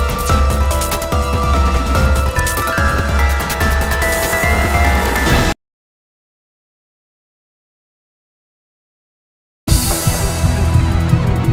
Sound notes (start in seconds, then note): 5.3 bang